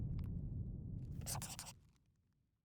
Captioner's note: scribbling